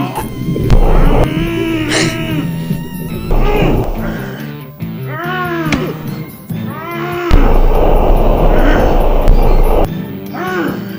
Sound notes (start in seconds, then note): 0.0 smoke gusting; 4.9 Dracula choking; 7.3 smoke gusts profusely